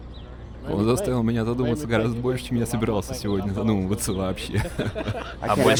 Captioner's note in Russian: произнеси со смехом